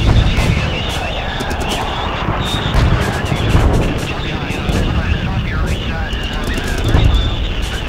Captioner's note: canon firing; gunshot fires